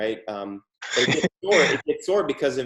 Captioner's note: laughs